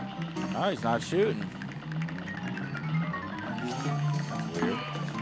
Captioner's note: mumbling frustation